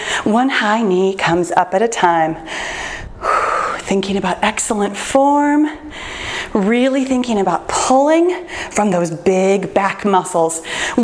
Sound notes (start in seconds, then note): 2.4 exhales